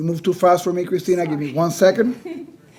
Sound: laughs

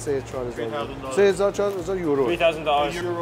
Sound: speaks Persian

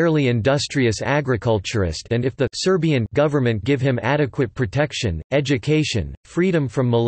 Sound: Serbian

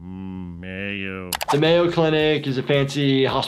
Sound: mouse clicks

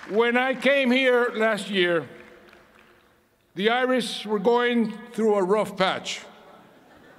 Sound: applause

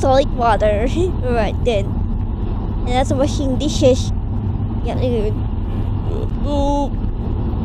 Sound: Shiryu: *mumbling

